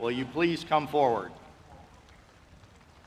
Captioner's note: applause